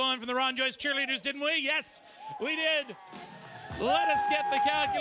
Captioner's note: applause